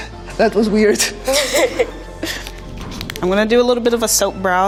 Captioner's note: both laughing